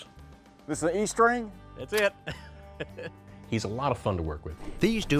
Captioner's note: chuckles